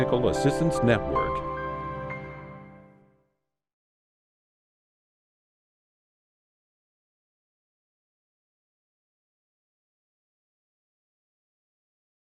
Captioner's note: silence